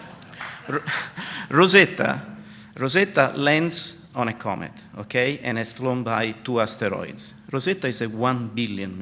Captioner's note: laughter/applause